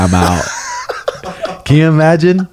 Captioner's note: laughing